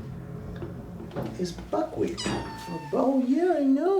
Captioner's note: Buckwheat chirruping